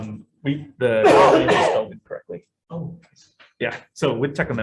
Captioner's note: coughing